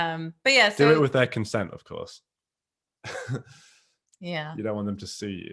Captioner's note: laughs